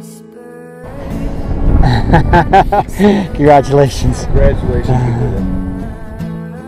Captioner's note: laughs